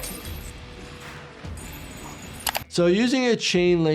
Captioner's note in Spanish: música rock; traqueteo de la cadena